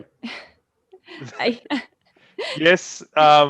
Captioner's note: laughs